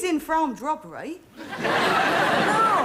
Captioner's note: audience laughing